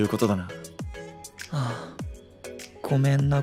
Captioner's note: sigh